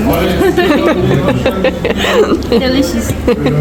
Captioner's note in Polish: śmiech